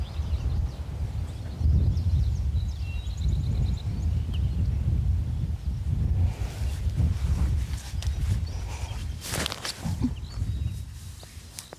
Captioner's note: birds chirping